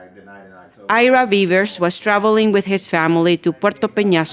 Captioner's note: voiceover